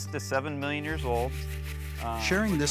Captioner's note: soil rattling